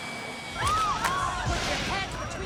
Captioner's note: screaming